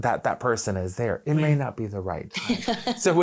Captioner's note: laughing